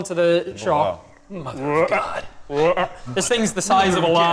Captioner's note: gigantic frog noises